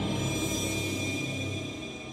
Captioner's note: none